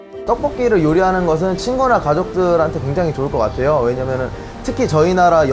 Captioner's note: speaking in foreign language